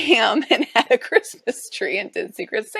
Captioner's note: chuckles